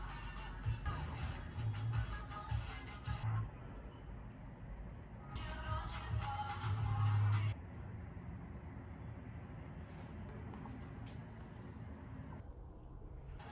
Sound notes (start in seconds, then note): none